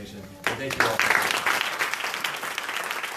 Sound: applause

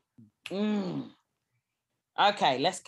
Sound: hums, satisfied

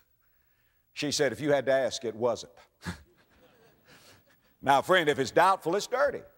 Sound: audience laughter

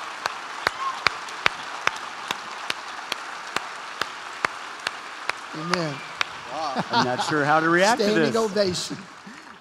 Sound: cheers and applause continues; laughs

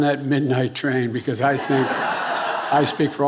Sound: attendees laughing

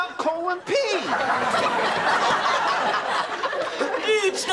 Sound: laughing

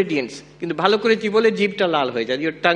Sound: non-english speech

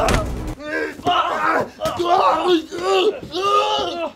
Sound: both grunt and groan

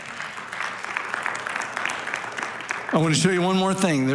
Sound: congregation applauding

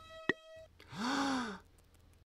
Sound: gasp

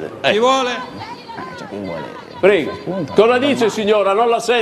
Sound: a lady starts yelling

